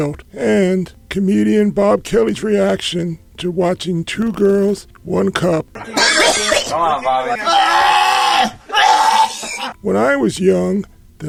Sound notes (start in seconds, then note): 5.7 Bob Kelly gags; 7.3 gagging continues